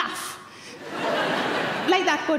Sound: crowd laugh

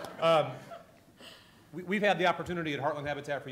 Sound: laughter

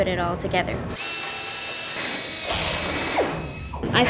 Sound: drilling sound

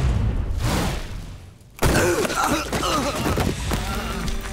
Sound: groaning

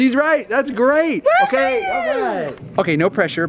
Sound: cheers

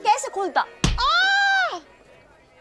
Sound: yelling in pain

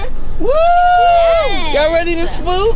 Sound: cheering

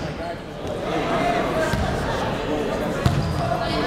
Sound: chatter

